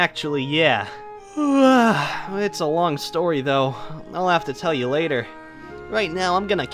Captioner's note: yawns